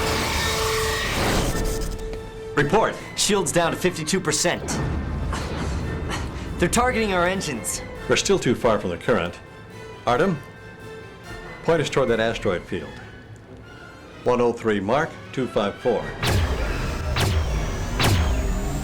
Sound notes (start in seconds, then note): 0.8 explosion; 4.6 explosion